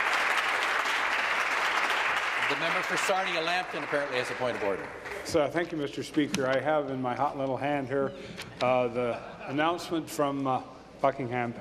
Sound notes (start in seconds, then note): 0.0 applause